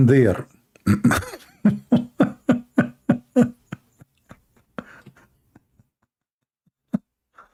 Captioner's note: Ketawa